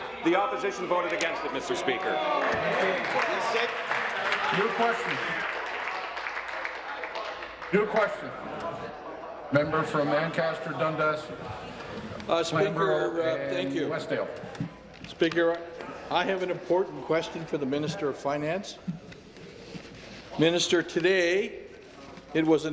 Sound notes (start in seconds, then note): 7.8 applause